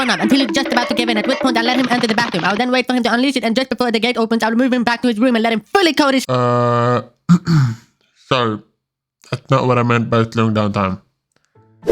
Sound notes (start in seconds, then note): 7.2 clears throat